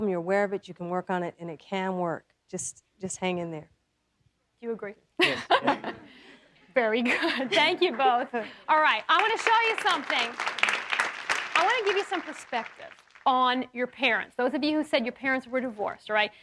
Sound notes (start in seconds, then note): 10.3 audience applauding